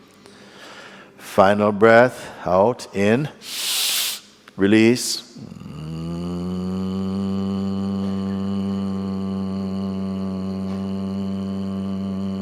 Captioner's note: long buzzing sound